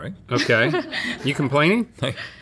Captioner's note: laughs